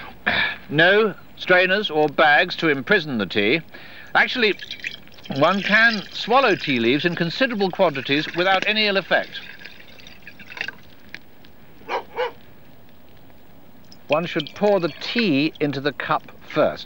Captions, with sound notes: No strainers... or bag to imprison the tea. Actually, One can shallow tea leaves in considerable quantities without any ill effect (lone dog barking) One should pour the tea into the cup first.